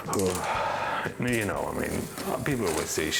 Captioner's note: deeply inahales; sighs